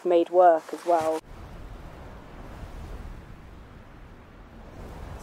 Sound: air whooshing

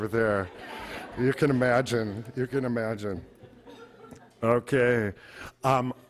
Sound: audience laughter

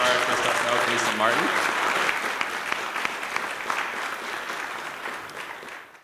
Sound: applause

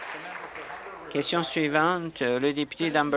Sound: applause

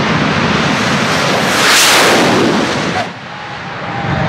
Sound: whooosh sound

